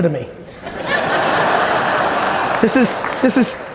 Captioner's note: audience laughing